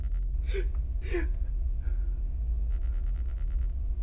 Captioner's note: sobbing